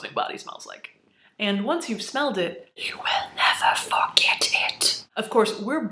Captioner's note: whispering